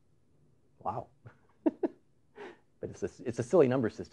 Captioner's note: chuckles